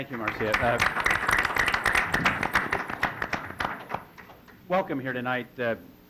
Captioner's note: applause